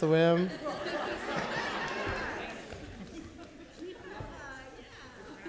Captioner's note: audience laughing